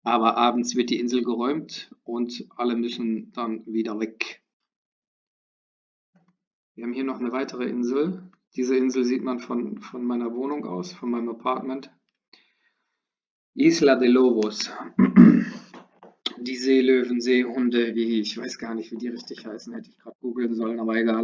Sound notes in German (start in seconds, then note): 14.8 räuspern; 14.8 husten